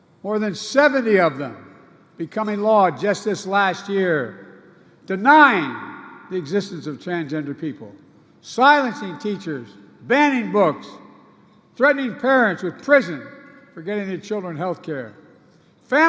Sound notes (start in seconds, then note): none